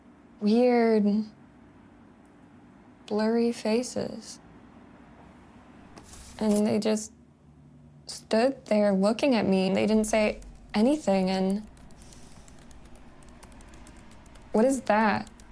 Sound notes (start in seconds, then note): 11.9 computer keyboard clicking